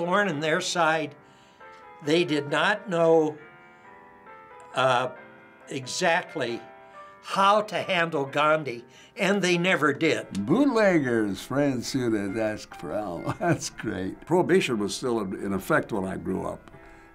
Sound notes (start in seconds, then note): 13.2 chuckles